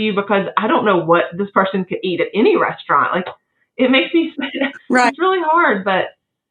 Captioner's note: laugh